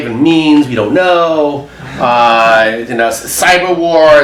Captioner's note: audience laughs